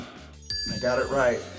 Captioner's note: bell dings